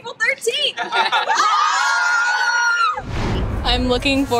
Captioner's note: group cheering